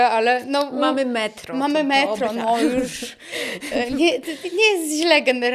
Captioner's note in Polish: śmiech